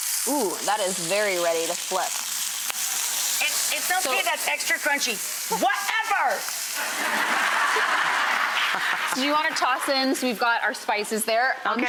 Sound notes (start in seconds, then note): 6.7 audience laughing